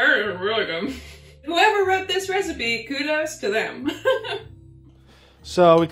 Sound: laughs

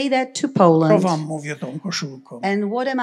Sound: foreign language; foreign language

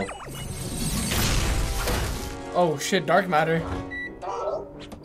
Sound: explosion

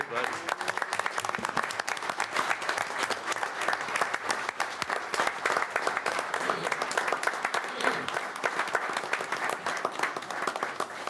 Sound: applause

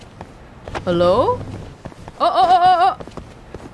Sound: stuttering

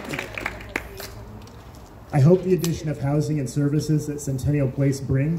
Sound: crowd claps

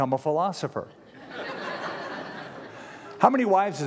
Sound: laughter

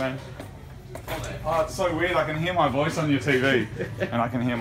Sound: laughs

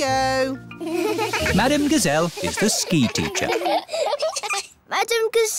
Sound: laughing

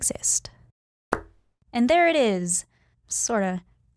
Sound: popping sound

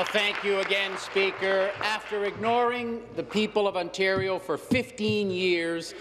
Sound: applause

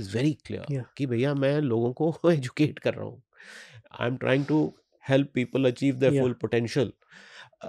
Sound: chuckles

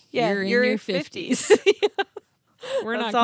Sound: laughs

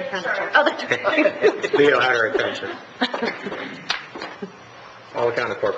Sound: members laughing

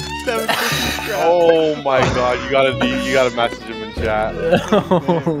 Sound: gasp; laughing

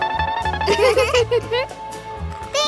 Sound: giggling

